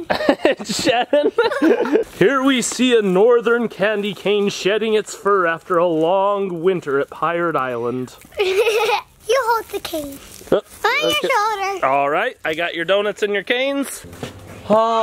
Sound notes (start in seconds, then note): 0.0 laughs; 8.3 laughs